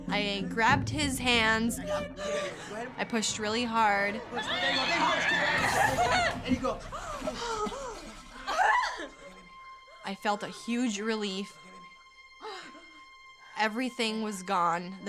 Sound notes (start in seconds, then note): 4.3 actress screams; 8.4 actress screams